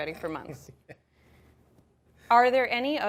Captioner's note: laughing